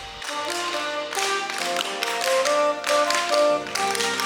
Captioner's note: tap dancing; saxophone